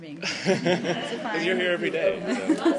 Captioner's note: laughter